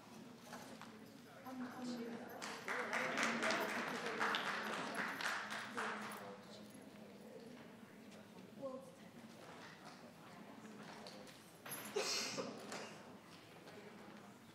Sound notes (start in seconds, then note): 2.5 audience applauds; 8.3 people chatter